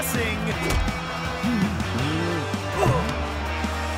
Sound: grunting

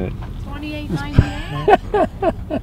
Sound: laughs

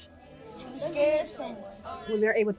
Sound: children talking

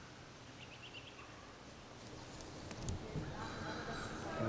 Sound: birds chirping

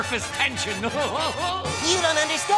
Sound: laughing

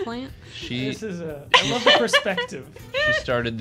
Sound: female laughter

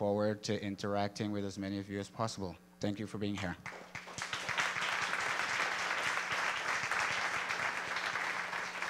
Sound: applause

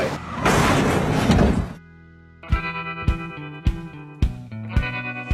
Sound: car crash sound

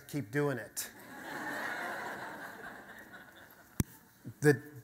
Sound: audience laughter

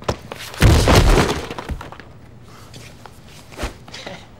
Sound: body thudding

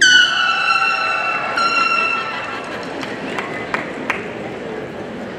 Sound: party blower squeaking

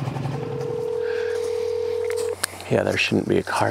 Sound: dial tone ringing

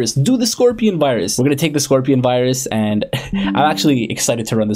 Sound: laughs

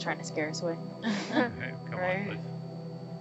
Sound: women chuckle

